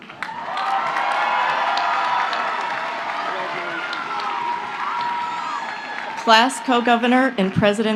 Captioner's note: applause